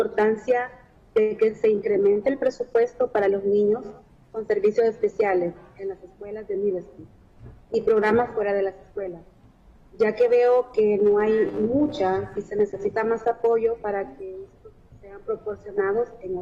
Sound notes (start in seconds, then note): 5.1 speaking spanish